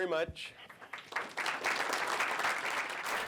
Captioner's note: applause